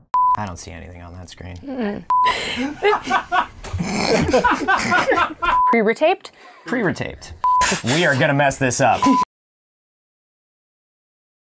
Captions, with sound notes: I don’t see anything on that screen. (laughing). Pre-retaped. Pre-retaped. We are going to mess this up.